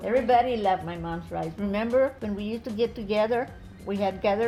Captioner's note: none